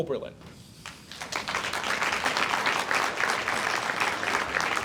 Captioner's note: audience applauds